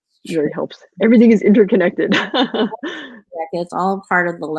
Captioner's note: laughs